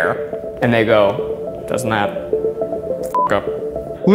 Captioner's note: beeb